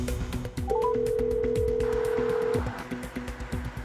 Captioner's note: phone ringing